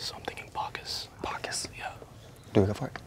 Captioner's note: whispering